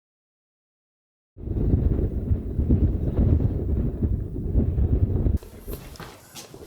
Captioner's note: wind howling